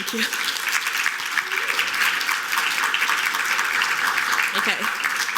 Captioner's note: applause